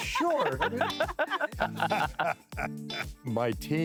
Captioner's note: laughing